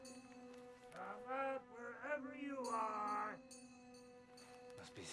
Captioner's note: sing-song